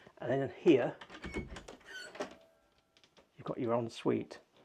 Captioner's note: door clunking